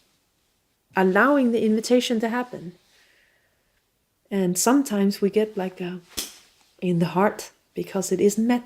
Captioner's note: hand smacking sound